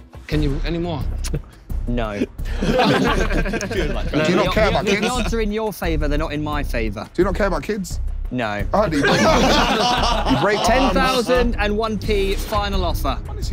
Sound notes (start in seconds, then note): 2.2 everyone laughing; 9.0 everyone laughing